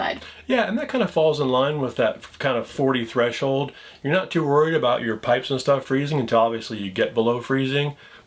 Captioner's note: none